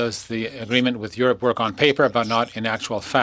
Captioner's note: speaking french